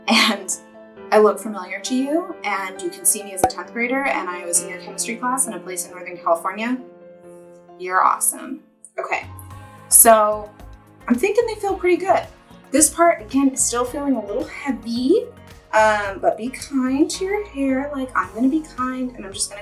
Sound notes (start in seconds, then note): none